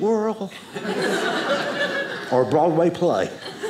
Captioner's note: audience laughing